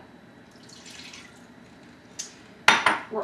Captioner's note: oil pours; bowl taps